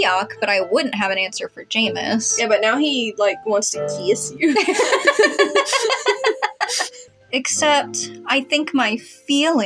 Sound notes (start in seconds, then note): 4.4 both Laugh